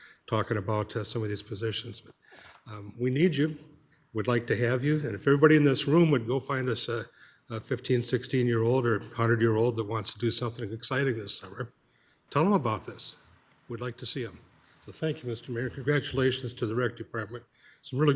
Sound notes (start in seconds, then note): none